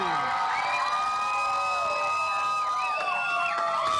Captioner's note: cheers and applause